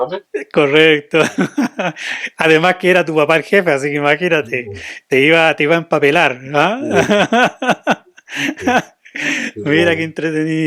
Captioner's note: laughs